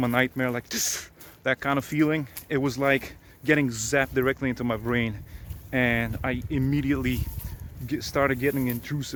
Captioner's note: gasp